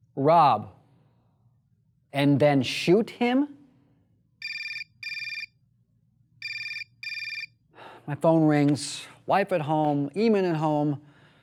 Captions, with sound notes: Rob! And then shoot him? (telephone, ring-ring) My phone rings, wife at home, Eamon at home.